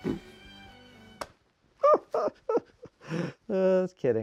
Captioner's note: laughing